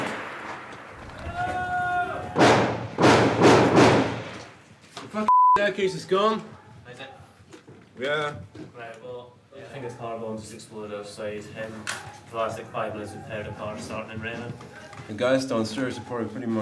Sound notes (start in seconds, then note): 2.3 gun fires